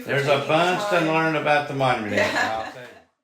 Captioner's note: laughs